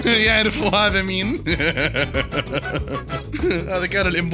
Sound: laughter

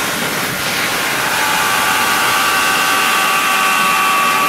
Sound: man screaming

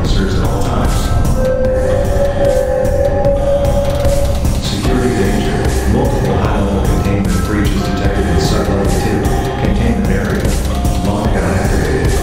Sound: announcement Chime; security Chime

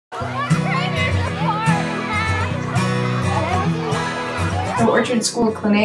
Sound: children playing

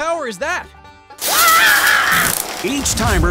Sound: electricity sparking; researcher screaming

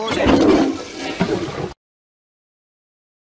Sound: flushes Toilet

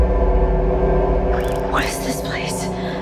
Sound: crackling

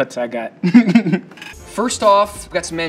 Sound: chuckles

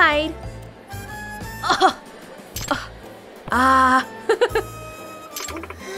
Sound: scoffs and chuckles

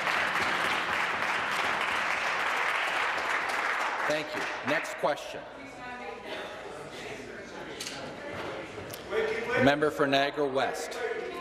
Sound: some Applause

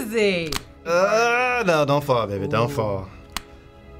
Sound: groans

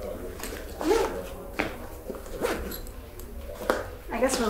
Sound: bag zipping

